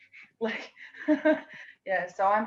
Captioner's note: laughs